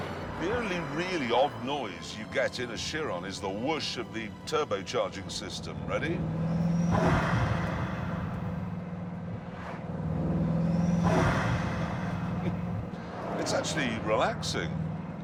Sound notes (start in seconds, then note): 6.4 sighs; 7.1 rhythmical whirring